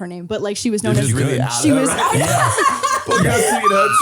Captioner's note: all laughing